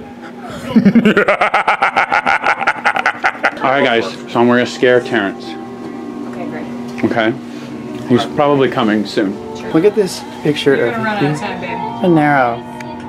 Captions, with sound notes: (evil laugh) All right guys, so we're gonna scare Terence. - Okay, great. - Okay he's probably coming soon. Look at this picture of Hugh Panaro.